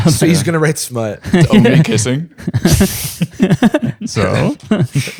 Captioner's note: laughter